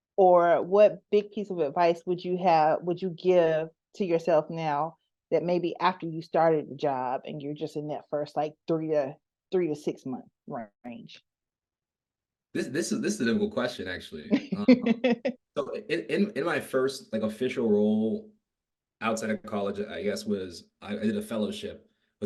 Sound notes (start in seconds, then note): 14.3 laughing